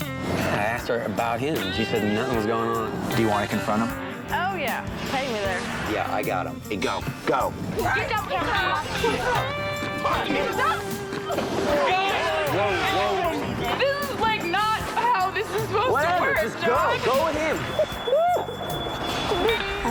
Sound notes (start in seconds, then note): 9.7 shouting; 18.2 crying